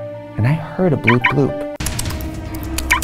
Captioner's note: alarm blooping; suspenseful music